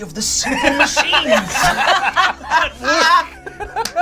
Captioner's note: all laugh